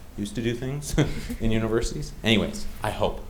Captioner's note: chuckling